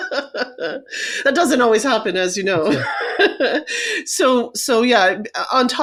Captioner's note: laughs; laughs